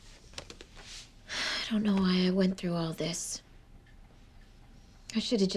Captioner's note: exhales